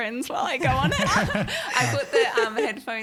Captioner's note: all laughing